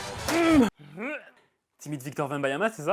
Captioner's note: grunting; grunting continues